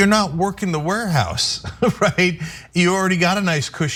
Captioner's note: laugh